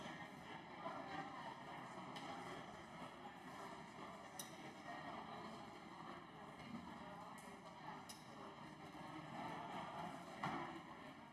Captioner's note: crowd Noise